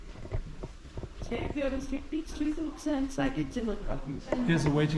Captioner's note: voices in the background